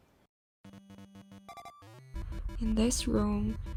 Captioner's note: buzzing sound